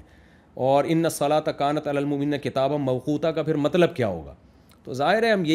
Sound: Arabic

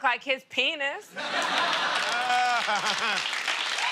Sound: laughter and applause

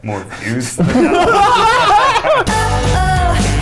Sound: laughing

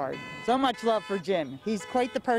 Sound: horns

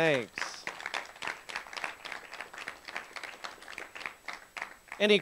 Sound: applause

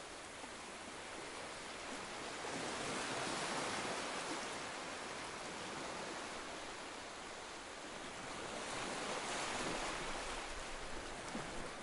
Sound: sound of ocean waves lapping on the beach

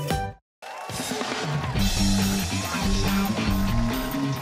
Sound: cheers and applause

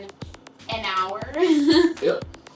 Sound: laughs

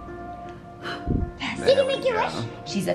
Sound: blows candles

